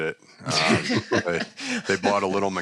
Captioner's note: chuckling